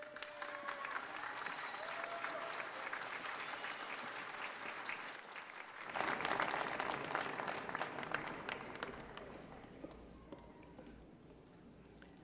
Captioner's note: applause